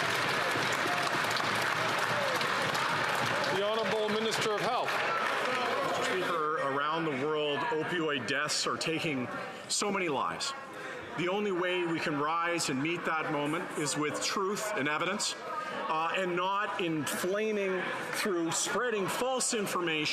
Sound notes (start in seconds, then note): 4.6 some Applause